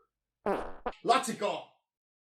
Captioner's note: funny fart sound effect